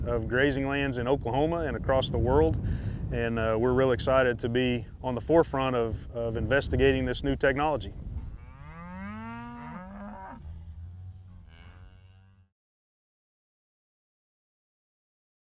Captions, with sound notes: of grazing lands in Oklahoma and across the world. And we're really excited to be on the forefront of investigating this new technology. (crickets chirping) (cows moo)